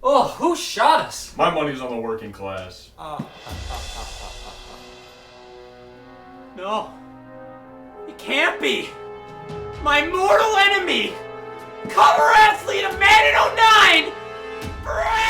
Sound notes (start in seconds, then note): 3.0 laughs